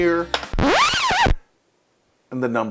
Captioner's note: record scratch sound effect